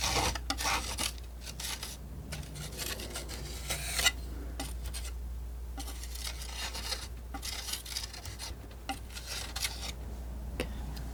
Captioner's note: scratching